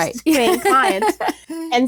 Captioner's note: laughs